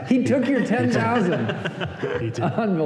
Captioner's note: laughter